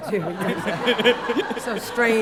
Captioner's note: laughter